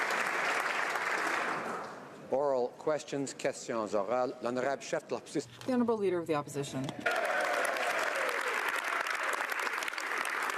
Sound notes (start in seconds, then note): 0.0 applause; 6.4 speaking French